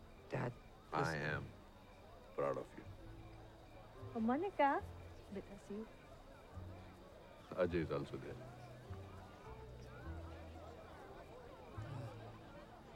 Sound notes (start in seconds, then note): 9.1 party chatter